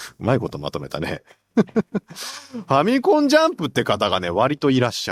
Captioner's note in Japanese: 笑い